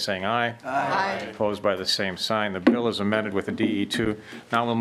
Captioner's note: chorus of ayes